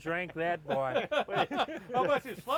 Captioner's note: laughing